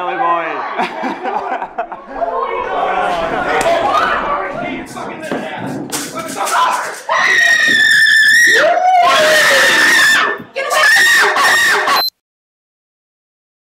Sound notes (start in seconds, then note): 7.3 woman screaming; 11.9 beeps